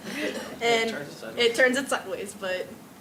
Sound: laughter

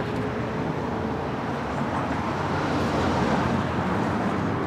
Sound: traffic sounds

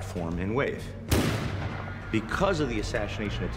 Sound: gunshot

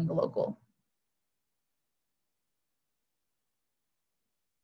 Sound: silence

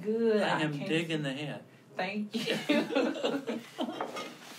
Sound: laughter

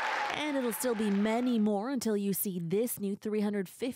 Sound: cheers and Applause

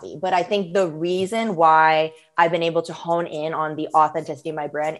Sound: none

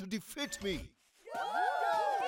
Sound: cheering

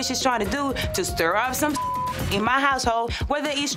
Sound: beep

